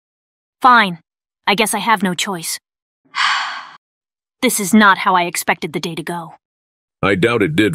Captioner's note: sighs